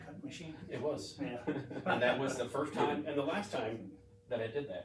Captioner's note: all laugh